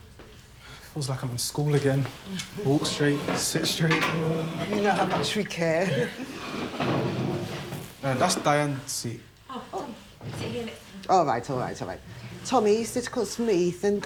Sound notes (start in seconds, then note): 5.8 chairs scraping